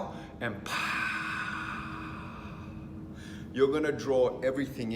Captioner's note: exhaling